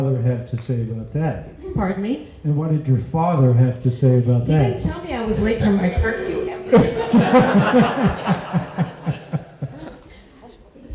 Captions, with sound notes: have to say about that? Pardon me? And what did your father have to say about that? You didn't tell me I was late for my curfew. [laughter]